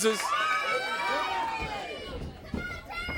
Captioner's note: crowd cheering